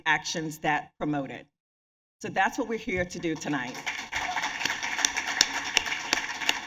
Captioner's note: applause